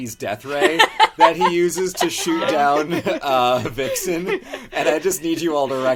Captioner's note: laughs